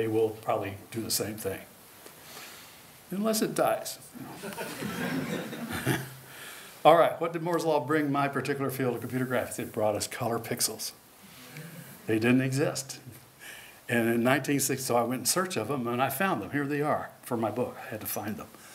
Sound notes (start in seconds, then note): 4.2 laughter